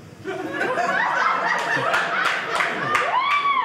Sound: audience laughing

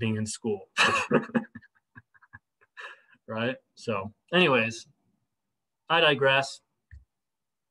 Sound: laughter

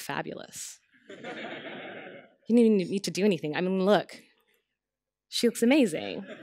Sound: laughter

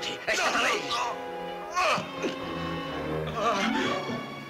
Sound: yelling

